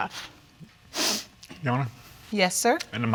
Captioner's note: sniffles